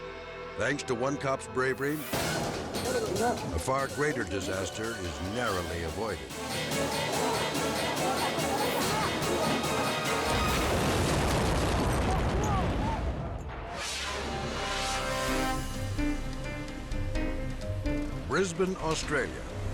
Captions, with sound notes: Thanks to one cop's bravery, a far greater disaster is narrowly avoided. (dramatic music) (explosion blasting) (suspenseful music) Brisbane, Australia.